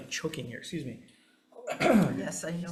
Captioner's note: coughs